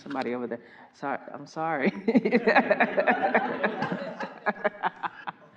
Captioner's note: everyone laughing